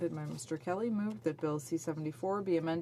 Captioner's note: speaking French